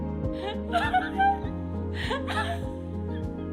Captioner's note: chuckles